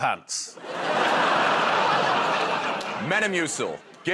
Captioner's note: laughter